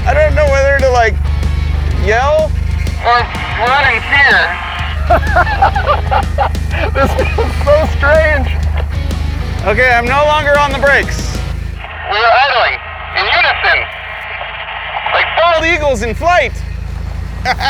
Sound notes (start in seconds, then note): 4.7 both laugh